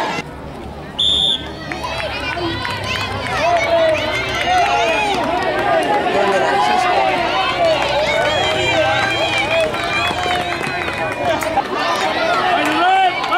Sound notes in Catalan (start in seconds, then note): 0.9 Xiulet; 0.9 La gent anima